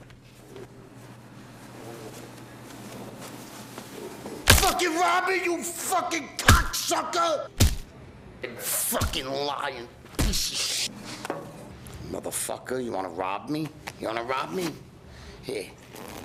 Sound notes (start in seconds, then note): 7.5 bat thudding; 15.9 pants unzipping